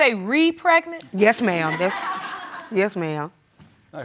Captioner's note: audience laughs